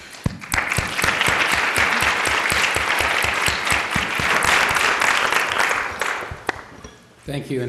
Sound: applause

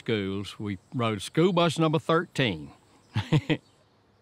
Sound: laughs

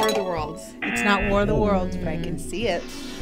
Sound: klaxon sounds; bell dings

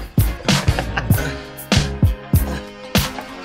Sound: laughs

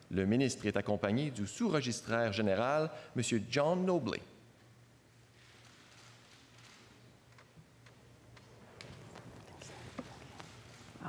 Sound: speaking French

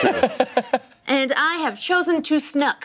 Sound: laughing

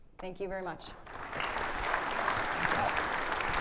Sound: applause

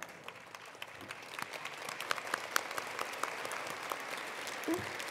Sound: attendees applauding

